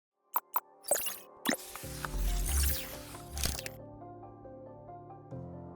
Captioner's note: digital sound effects